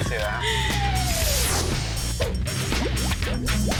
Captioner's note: laughing; upbeat music